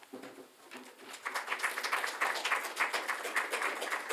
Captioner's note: applause